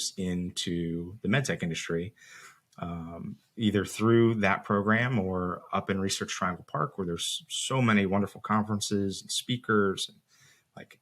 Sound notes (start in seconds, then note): none